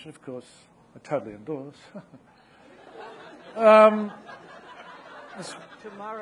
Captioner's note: audience laughing